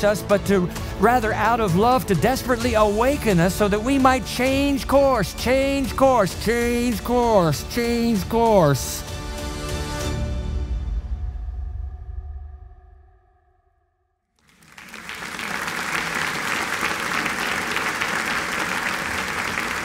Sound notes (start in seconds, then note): 15.9 applause